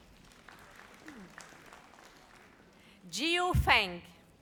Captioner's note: audience applauds